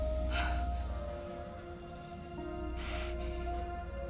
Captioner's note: voices whispering